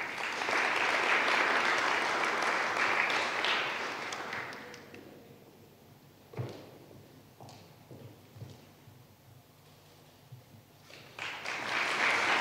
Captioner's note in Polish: oklaski